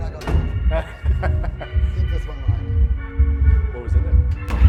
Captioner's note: laughter